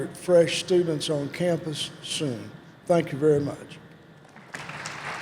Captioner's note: applause